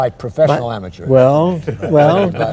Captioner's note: laughter